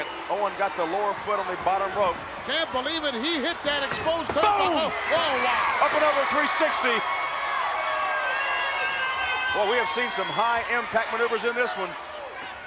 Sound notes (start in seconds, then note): 6.8 audience cheering